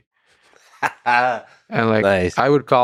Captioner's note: Lex laughing